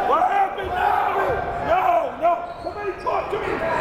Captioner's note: yelling